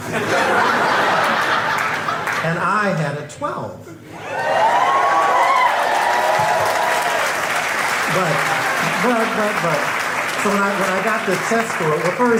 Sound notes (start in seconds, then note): 0.0 crowd laughing; 4.2 crowd cheering and clapping